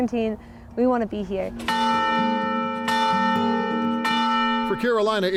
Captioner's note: bells ringing